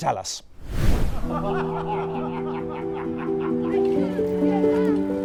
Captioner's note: men laughing; dramatic music